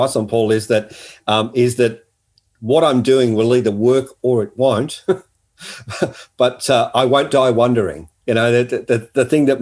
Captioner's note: laughing